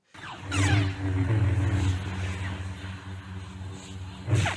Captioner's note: lightsabers hum